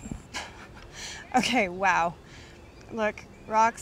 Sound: laughs

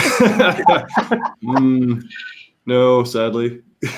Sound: all speakers laughing

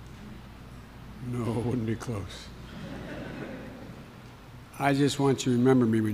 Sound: laughter

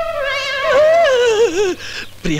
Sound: screams

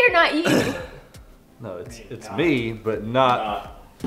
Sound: laughing

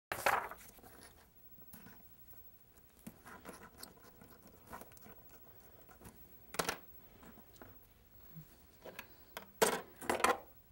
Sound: shuffling items around

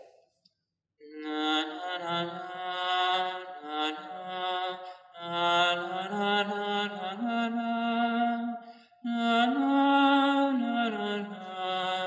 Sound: chant

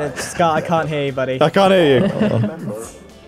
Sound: laughs

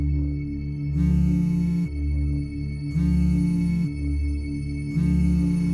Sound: phone ringing

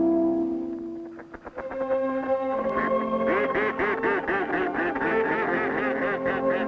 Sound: ducks quacking

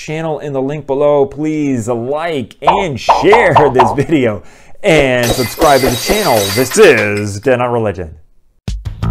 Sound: glass breaking

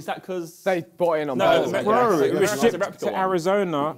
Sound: crowd mumbling

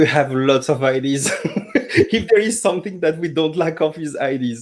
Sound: laughs

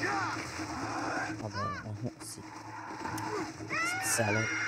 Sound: laughs; screams in pain

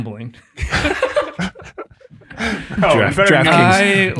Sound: all laughing

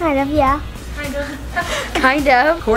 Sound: laughs

